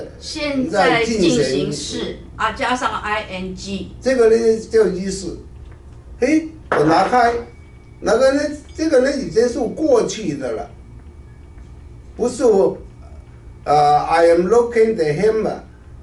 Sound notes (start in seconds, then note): 6.7 hammer